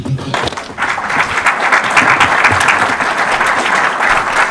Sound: audience applause

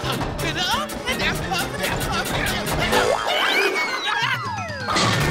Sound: screaming

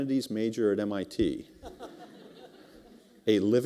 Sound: laughter

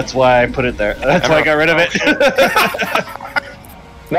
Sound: laughter

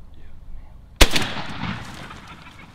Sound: gun shot

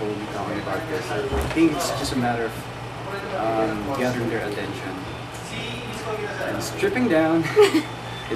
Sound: laugh

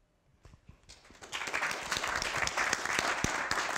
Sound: applause

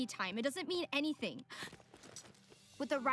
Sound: gasps

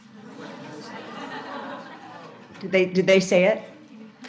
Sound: audience laughs

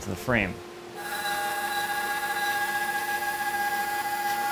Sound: machine buzzing

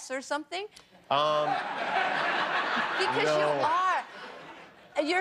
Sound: laughter

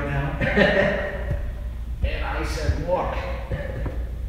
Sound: laughing; laugh

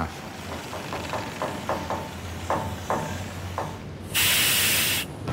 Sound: eerie creaking

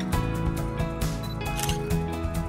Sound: camera snap sound

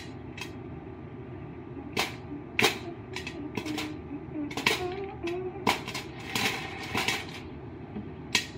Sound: dancing and humming to the popping beat

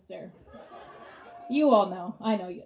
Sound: audience laughs

